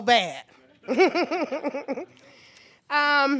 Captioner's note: laughs